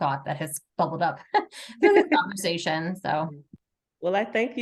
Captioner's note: chuckles